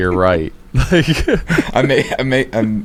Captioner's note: laughs